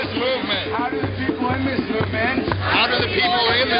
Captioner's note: voiceover